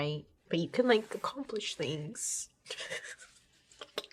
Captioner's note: chuckles